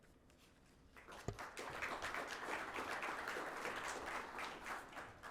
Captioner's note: audience applauding